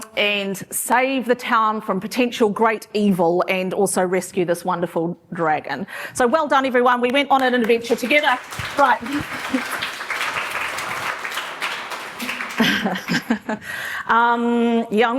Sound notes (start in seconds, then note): 9.4 applause; 12.7 laughs